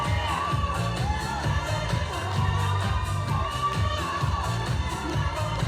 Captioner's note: audience cheering